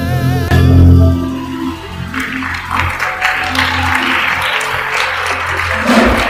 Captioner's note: congregation cheers and applauds